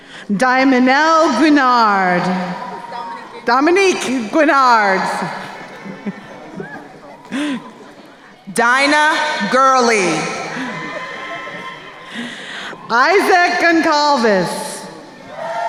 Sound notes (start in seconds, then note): 5.5 laughs; 10.4 crowd cheering; 15.5 crowd cheering